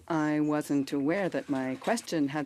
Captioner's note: speaking in French